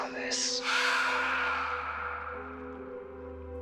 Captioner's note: menacing scream